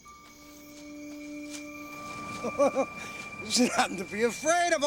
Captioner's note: chuckles